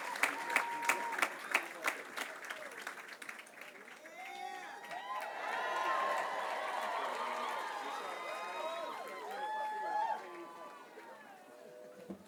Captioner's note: cheering and applause